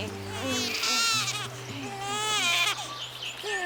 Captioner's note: Bray crying